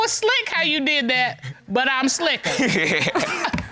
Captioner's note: laughs